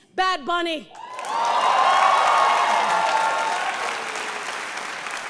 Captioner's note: audience cheering and applause